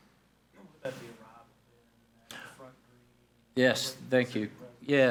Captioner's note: speaks faintly